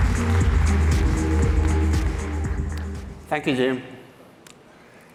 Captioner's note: applause